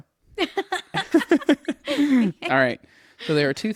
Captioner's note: laughs